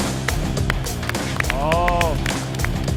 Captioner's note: A burst of applause